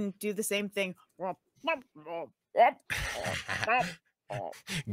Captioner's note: Niko croaks